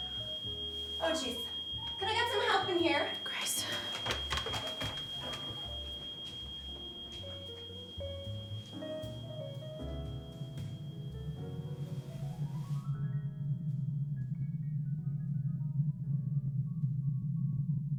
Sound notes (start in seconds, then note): 4.7 alarm continues beeping; 8.7 soft slow bright music; 12.8 air rumbling